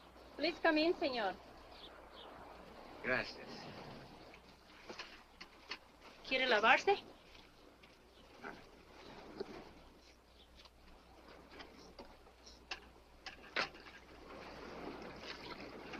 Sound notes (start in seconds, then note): 0.0 man speaks Spanish; 6.2 woman speaks Spanish